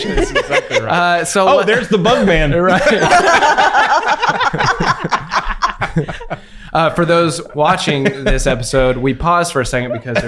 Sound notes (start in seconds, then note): 3.4 everyone laughs